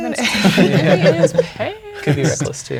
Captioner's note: players laughing